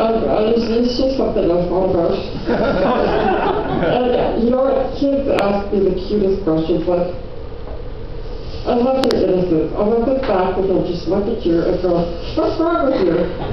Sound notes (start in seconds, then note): 8.2 laughter